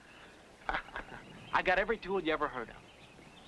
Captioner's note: laughing